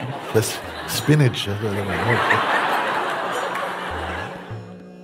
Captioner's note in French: rires